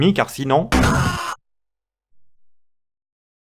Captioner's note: aaah!